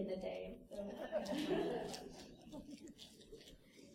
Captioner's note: laughter